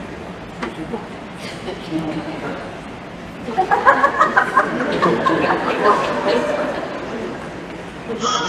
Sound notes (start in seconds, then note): 3.4 laughter